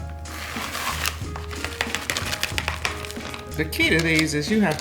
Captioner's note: bag rustling